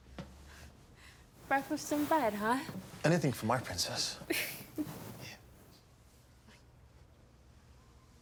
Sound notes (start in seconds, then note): 4.5 Dana laughing